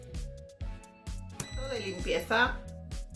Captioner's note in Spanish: sonido: piiii